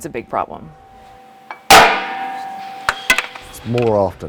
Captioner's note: repair noise